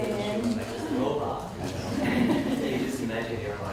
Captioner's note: audience laughs